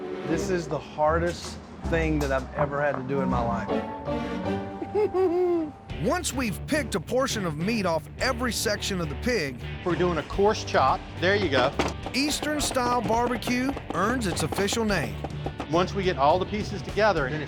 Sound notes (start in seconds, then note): 5.0 whimpers; 11.7 chopping